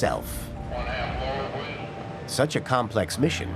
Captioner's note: man talking via radio